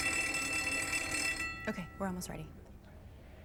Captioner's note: bell rings